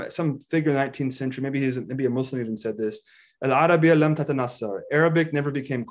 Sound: speaks in foreign language

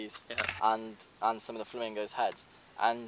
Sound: camera click

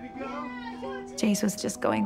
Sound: group cheers

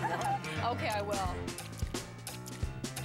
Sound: chuckling

